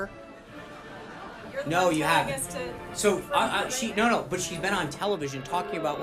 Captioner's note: laugh track; boo track